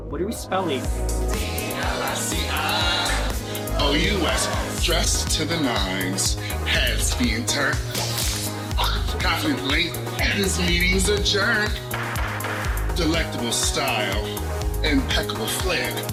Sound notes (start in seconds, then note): 1.3 singing; 8.0 snap; 9.1 singing